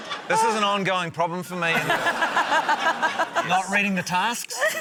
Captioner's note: laughter